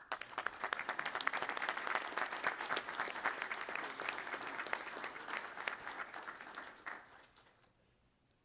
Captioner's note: applause